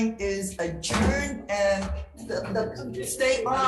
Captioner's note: gavel thumps